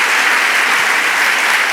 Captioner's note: applause